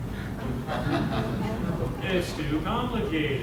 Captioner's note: audience laughs